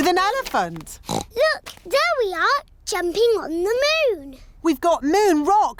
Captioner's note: oinks